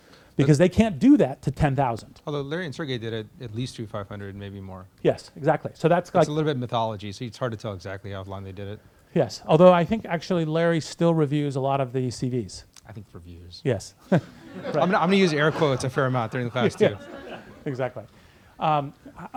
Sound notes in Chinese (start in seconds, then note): 14.1 大笑; 14.1 课堂大笑